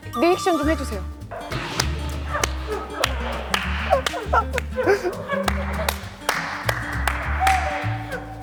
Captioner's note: fake laugh generator; fake laughter everywhere